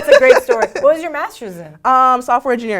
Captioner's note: laugh